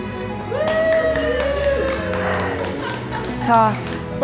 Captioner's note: applauding